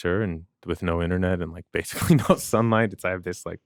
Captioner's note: chuckles